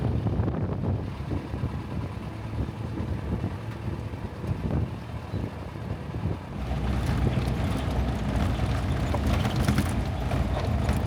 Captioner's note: engine revving